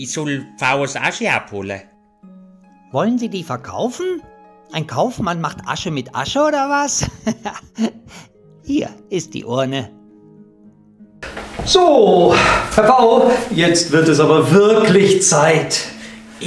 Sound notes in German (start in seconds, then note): 6.9 Lachen